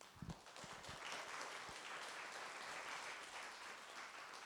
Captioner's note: applause